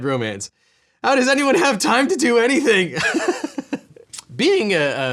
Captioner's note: laughs